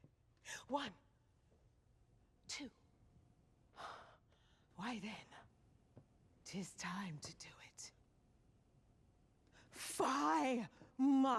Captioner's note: sighs